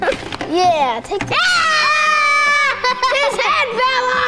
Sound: cheer together

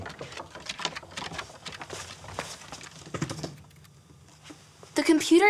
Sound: scratching sounds

